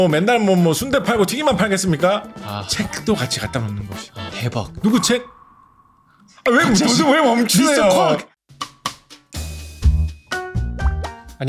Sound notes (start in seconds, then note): 5.5 the music stops; 9.2 upbeat music